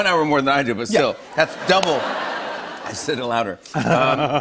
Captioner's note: laughter